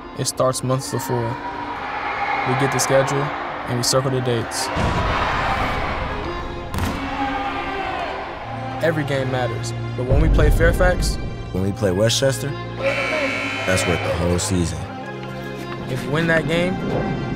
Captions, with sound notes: - It starts months before. (crowd cheering) We get the schedule, and we circle the dates. (people shouting) - Every game matters, but when we play Fairfax? - When we play Westchester? (buzzer buzzes) That's worth the whole season. - If you win that game,